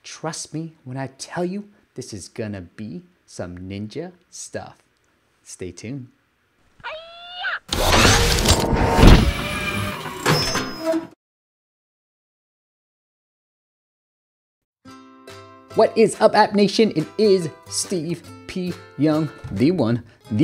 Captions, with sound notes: Trust me when I tell you this is gonna be some ninja stuff. Stay tuned. (ninja shouts) (machine whizzes) What is up appnation? It is Steve P. Young, the one, the only